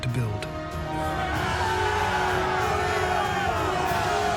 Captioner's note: cheering